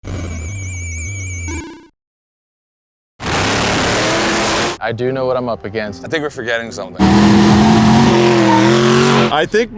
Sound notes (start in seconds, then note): 1.3 8-bit video game bleeps and blips; 3.2 engines roar; 7.0 engine growls; 8.7 throttle thrums; 8.7 tires screech